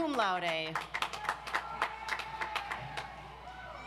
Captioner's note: audience applauds